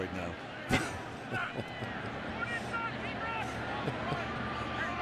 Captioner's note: laughs